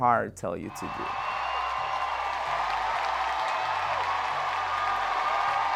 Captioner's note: applause